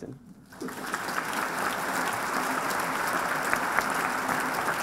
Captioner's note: applause